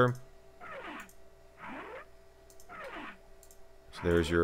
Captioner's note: sound effects